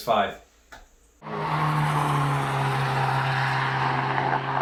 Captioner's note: zoom zoom